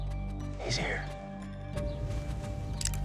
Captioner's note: whispers